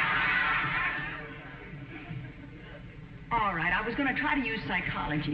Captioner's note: audience laughing